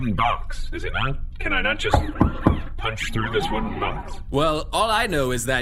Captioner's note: C-53 knocks again